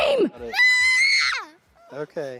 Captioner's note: screaming